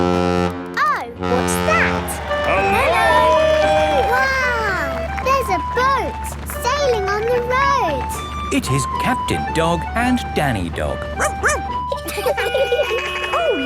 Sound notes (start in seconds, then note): 1.2 horn bellowing; 11.1 barks; 12.3 laughing; 12.3 sirens sounding